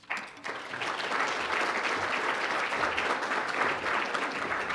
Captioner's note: audience applauding